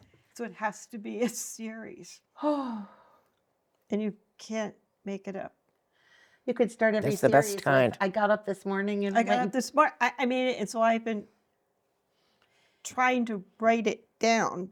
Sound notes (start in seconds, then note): 3.1 sighing